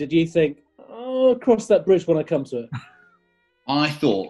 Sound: chuckles

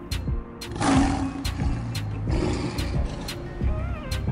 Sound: lion roar

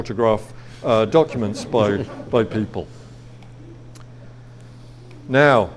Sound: audience laughs

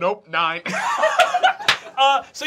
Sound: laughing

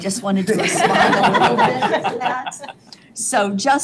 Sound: board members laughing

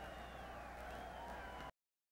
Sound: crowd cheering

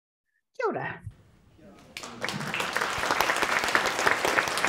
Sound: audience applauds

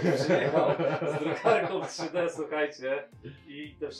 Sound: laughter

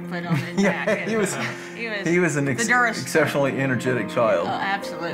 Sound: laughs

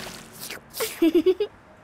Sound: giggling

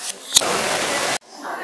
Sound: unbearable white noise original unedited camera audio

